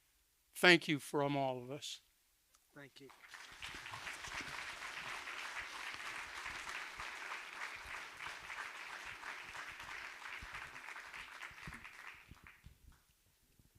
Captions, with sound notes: Thank you from all of us. Thank you. (audience applauding)